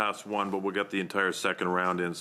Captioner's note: speaking French